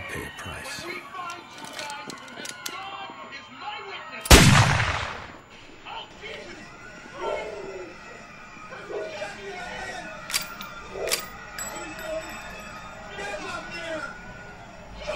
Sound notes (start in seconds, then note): 4.3 A vicious sniper shot rings out from the apartment; 10.2 a bullet casing hits the ground